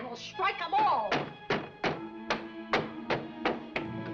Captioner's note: banging